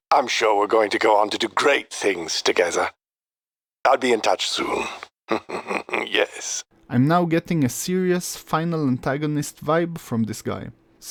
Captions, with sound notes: I'm sure we're going to go on to do great things together. I'll be in touch soon. [chuckles] Yes. I'm now getting a serious final antagonist vibe from this guy.